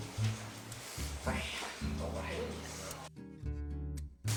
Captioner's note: sighs